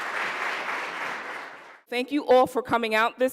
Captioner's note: applause